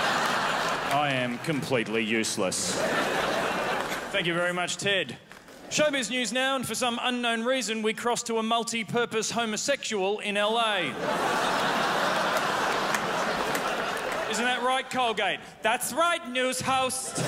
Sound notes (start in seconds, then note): 2.3 crowd laughs; 10.8 crowd laughs